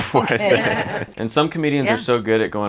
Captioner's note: all laughing